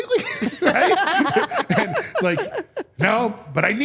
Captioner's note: all laughing